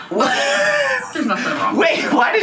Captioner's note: giggling